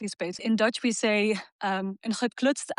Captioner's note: speaking in foreign language